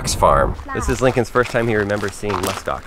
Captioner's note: faint speaking